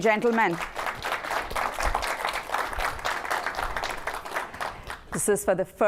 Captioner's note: applause